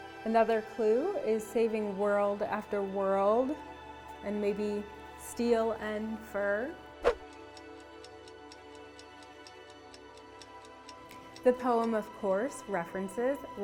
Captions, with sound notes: Another clue is "saving world after world" and maybe "steel and fur". (clock ticking) The poem of course references